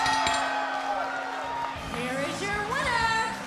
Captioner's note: bell ringing